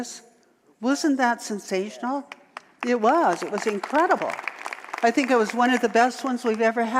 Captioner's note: audience applause